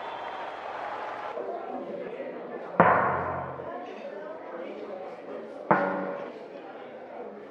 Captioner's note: people talking; single drum pound